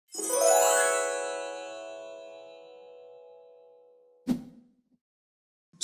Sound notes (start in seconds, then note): 0.2 chimes ring; 4.3 air whooshes